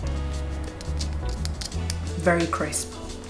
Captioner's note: tapping